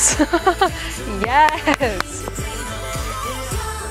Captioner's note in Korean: 박수박수